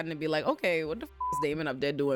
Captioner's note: beep